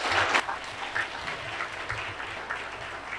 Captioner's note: applause